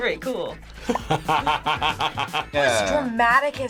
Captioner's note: laughs